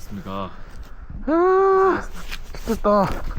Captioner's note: groaning